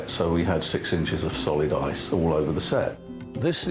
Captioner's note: none